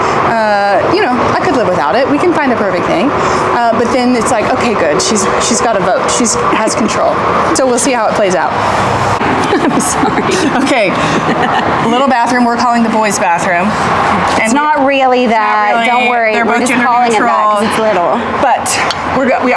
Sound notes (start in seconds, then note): 9.2 laughs